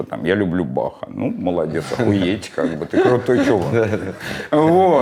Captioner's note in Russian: смеётся